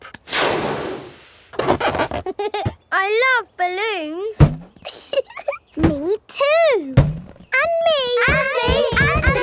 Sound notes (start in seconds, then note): 4.8 chuckles